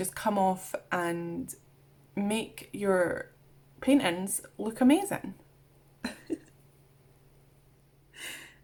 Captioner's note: laughs